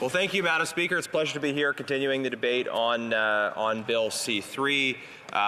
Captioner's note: speaking French